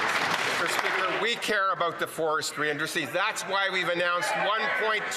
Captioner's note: some Applause